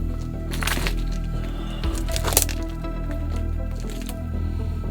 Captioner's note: sighs; rocks crunching